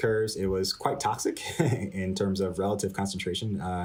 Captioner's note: laughter